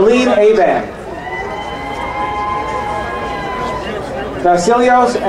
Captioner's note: crowd cheering